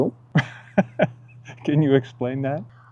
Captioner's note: host laughs